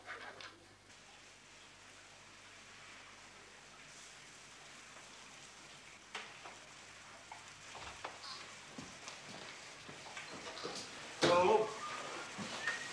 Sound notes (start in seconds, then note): 0.9 rain falling